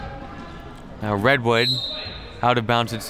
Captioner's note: referee blows whistle